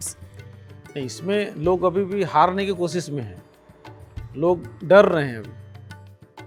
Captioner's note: speaking foreign language